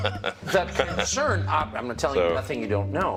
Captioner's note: laughter